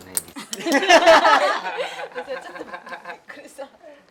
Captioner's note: big laughter